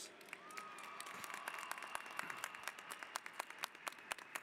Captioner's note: applause